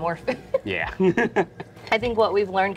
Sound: laughs

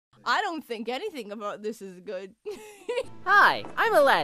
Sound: giggle

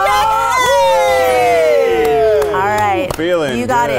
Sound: yelling

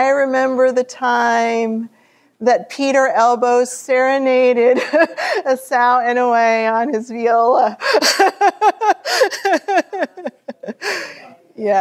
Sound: laughter

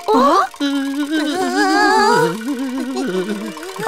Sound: shivering

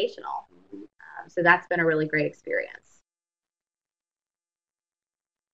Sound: brief silence

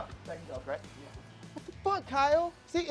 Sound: mumbles goodbyes

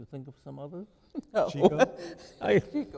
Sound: chuckling

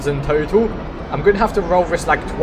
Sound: reveal sound in the background; reveal sound

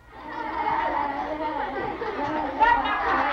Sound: laughter

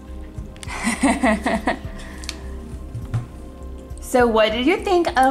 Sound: laughs

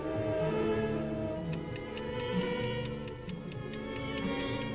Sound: ticking

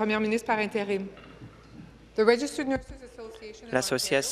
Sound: speaking in French

